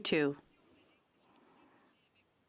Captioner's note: speaking French